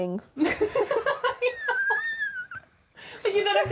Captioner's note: laughing